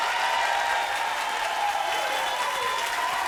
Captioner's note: applauding